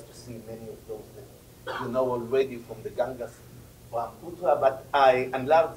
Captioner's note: spanish